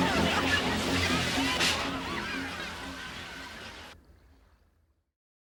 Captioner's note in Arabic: ركاب القوارب يتحدثون ويضحكون